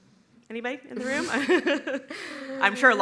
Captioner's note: laughs